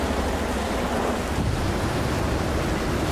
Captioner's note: thunder and rain